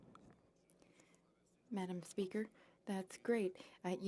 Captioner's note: speaking French